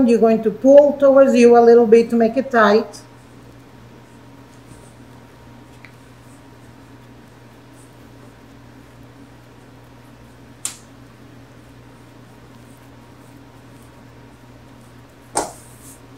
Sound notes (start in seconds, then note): none